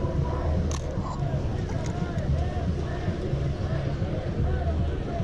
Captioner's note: shutter click